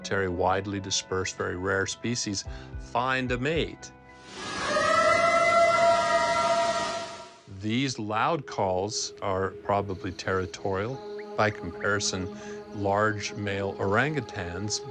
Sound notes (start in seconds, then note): 4.3 eerie howl